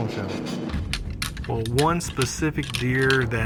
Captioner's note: clanking